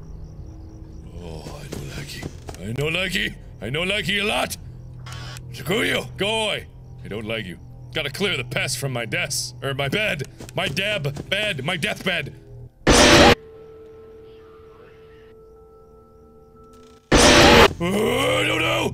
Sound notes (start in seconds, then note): 13.8 radio talking; 17.4 Sounds of a spooked Mark